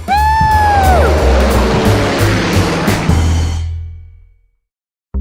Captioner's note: airplane engine rumbling